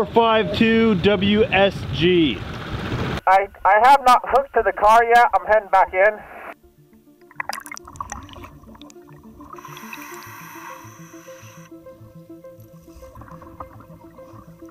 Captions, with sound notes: 452WSG. - 452WSG. - I have not hooked to the car yet. I'm heading back in. (water bubbling) (inhaling air) (light upbeat music)